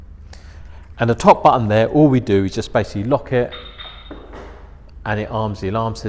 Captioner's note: beep beep